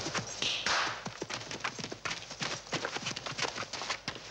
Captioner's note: claps hands